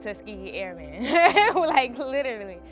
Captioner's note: laughs